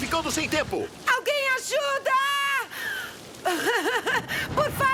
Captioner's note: crying